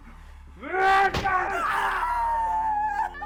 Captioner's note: Skull-Faced Assailant shouts; strike thudding; Sue wailing